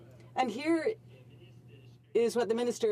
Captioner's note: speaking French